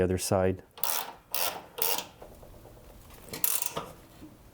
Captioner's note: wrench clicking